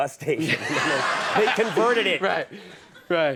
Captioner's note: audience laughs